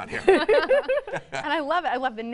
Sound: laughing

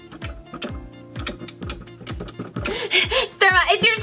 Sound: Gertie tapping

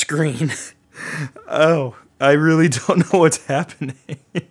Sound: chuckles

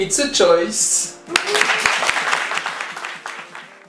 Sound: applause

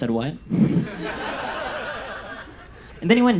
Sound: audience laughs

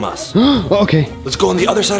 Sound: gasps

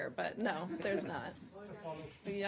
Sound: laughter

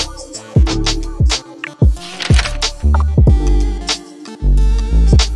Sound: camera shutter clicks

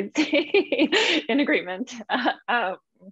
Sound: laughs

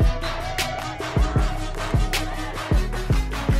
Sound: shouts

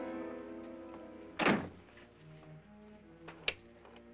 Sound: suspenseful music; door closes

